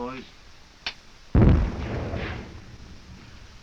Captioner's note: explosions continue